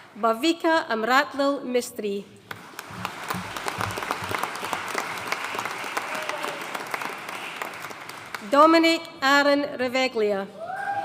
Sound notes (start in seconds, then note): 2.5 audience applauding